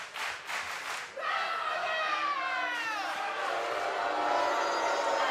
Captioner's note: fans chanting